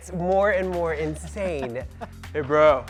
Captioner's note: laughs